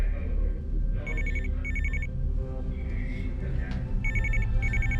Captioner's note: phone ringing